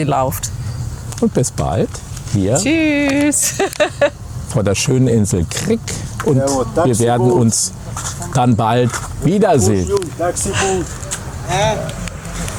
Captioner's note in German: gelächter